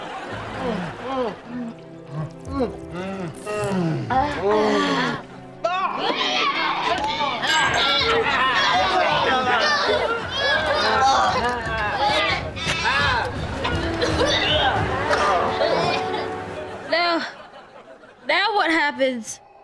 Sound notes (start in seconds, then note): 4.0 groaning, coughing; 10.0 groaning; 13.6 coughing, groaning